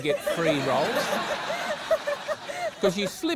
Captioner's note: laughter